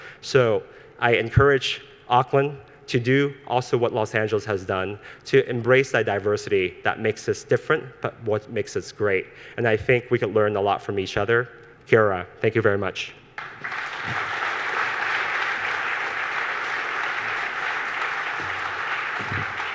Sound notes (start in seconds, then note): 11.9 speaks foreign language; 13.4 audience applause